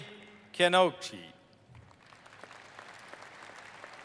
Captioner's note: applause